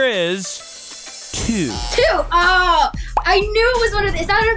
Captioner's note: buzzer buzzing